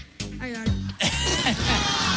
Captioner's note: farting noise